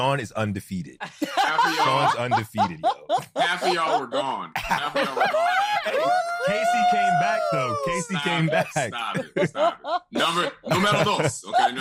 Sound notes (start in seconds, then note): 6.9 laughter, cheering